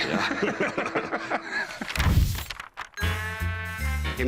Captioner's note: laughter